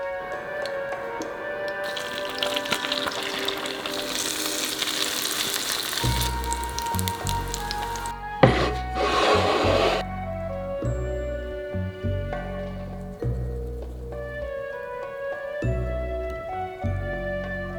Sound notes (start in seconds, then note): 1.7 fritters sizzling in oil; 8.4 plate sliding